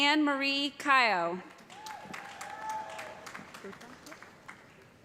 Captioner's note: cheers and applause